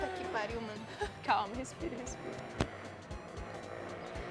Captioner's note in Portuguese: risos